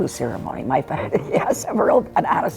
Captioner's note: chuckles